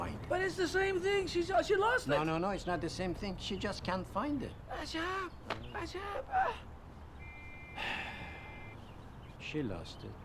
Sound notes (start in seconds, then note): 5.1 foreign language